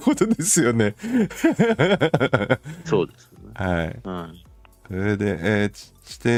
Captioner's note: laughs